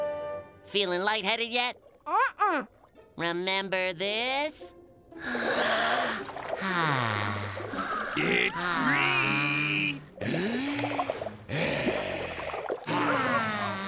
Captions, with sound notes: Feeling lightheaded yet? Uh-uh. Remember this? [breathing] [breathing]